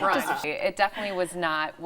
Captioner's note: laughing